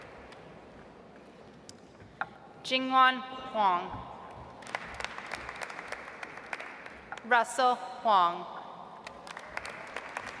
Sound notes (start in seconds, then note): 4.6 audience applauds; 9.0 audience applauds